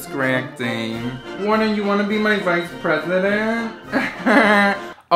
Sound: laughing

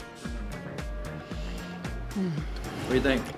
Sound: breathes deeply

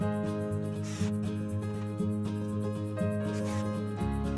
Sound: drill whirs

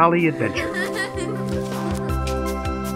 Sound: children laughing; bright music

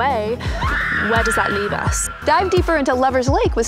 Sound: Eleven screams

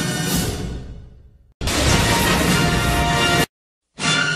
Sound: electricity zapping as rousing fanfare plays; rousing fanfares resuming

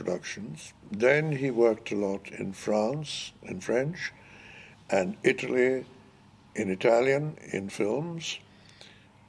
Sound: in Italian

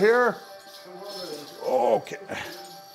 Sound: bells jingling

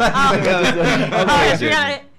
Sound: all laugh

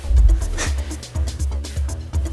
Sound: laughs

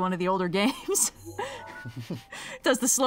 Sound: laughs

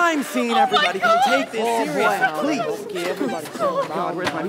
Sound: overlapping chatter amongst everyone

